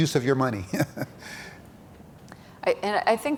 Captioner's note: chuckles